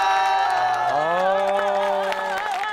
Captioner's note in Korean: 열광